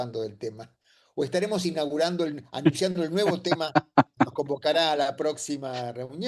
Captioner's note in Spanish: risas